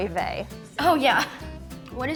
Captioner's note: chuckles